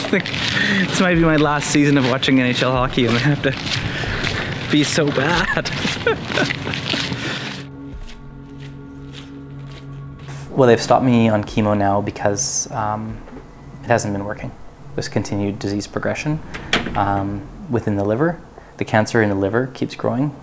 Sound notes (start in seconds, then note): 5.0 laughs; 8.4 dramatic music